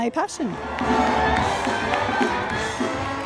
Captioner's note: audience cheering and applauding; upbeat whimsical music